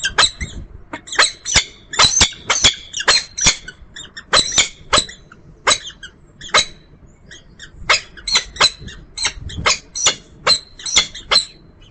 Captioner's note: birds calling